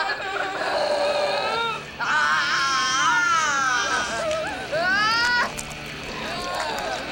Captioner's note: woman laughs; skin cracking; woman grunting